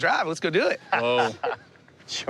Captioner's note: laughs